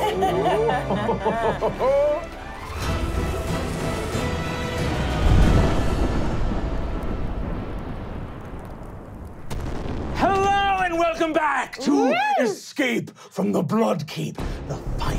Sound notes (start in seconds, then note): 0.0 laughing; 2.8 dramatic music; 4.9 explosion